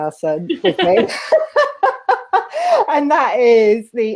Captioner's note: laughing